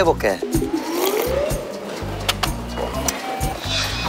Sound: Seaweed soup drinking

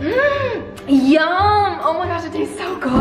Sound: gasps

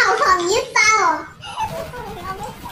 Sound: laughing

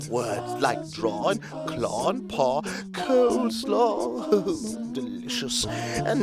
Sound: chuckles

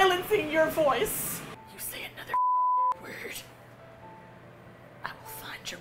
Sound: whispers menacingly

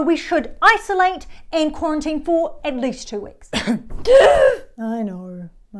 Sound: coughs

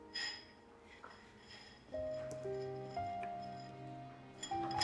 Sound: dishes clinking

